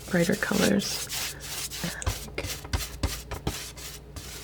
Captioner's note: tapping